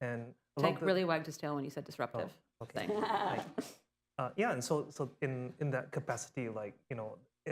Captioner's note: laughter